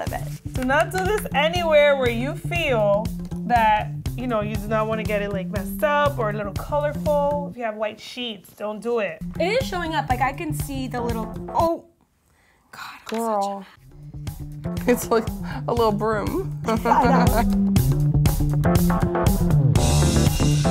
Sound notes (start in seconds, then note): 16.7 laughing; 18.2 soft music